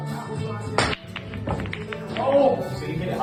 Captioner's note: pool balls clatter